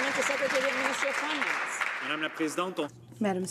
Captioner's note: some Applause